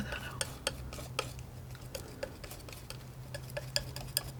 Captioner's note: scratching